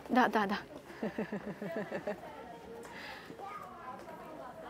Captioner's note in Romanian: Râsete